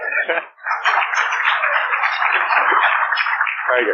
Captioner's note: laughter and applause